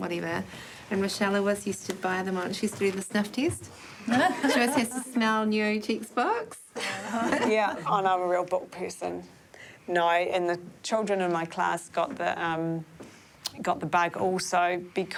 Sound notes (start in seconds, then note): 6.8 laughs